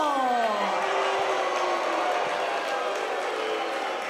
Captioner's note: crowd boos